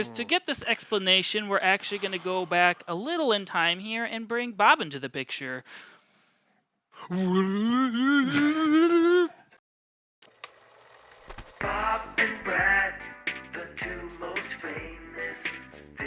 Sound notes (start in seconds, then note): 7.1 whirring and whooshing